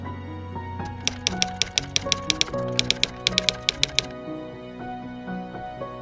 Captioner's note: typewriter keys clicking